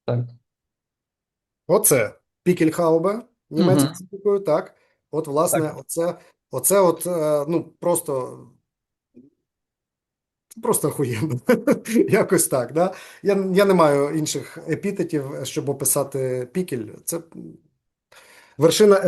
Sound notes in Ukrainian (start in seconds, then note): 11.1 сміється